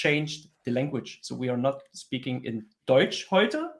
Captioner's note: speaks German